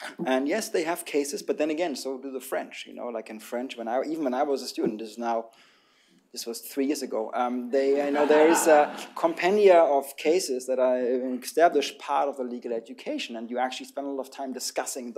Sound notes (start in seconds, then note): 8.0 laughter